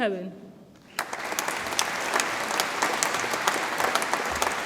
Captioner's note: audience applauds